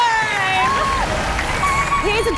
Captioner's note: applause